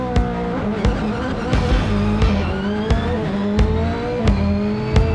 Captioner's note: engine revving